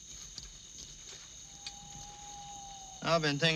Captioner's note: insects chirping; owl cooing